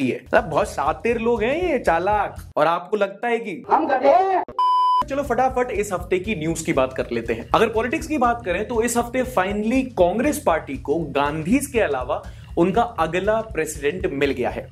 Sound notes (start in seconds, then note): 4.5 beep